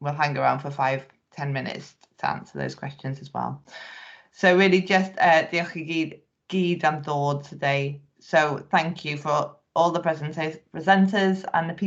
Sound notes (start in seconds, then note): 6.0 speaking Welsh